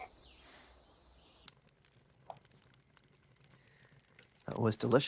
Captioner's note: fire crackling